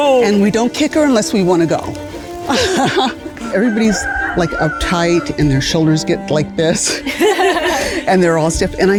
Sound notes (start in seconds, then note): 2.4 laughs; 6.8 group laughs